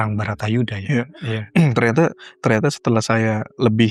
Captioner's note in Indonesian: berdehem